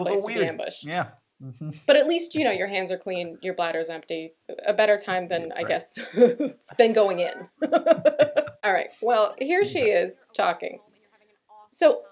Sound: laughter

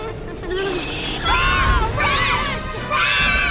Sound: screaming

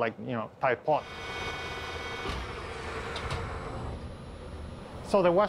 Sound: machine revving

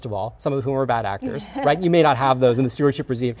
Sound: laughs

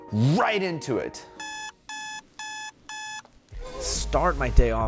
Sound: alarm clock blaring

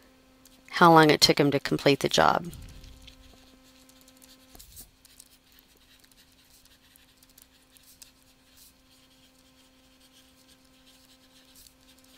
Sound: writing

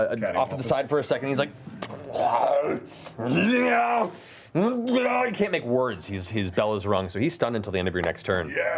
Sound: grunting

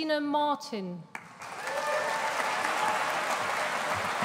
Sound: audience applauding

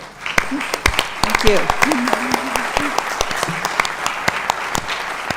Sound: applause

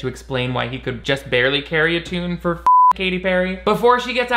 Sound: beep

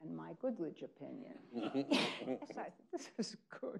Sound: people laughing

